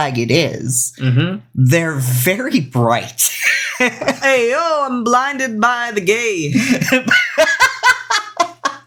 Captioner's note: laughs